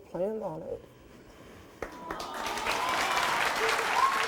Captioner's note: applauding